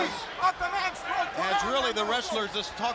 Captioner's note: crowd chatter